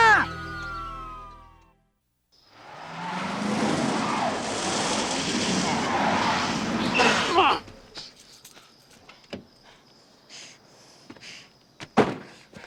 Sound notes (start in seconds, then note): 0.0 sirens wailing; 2.6 engine roaring; 6.9 grunts